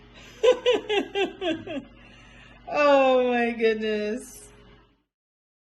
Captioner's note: laughing